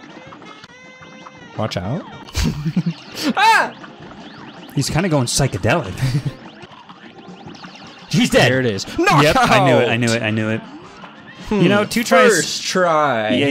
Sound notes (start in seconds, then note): 2.3 laughs; 6.3 chuckle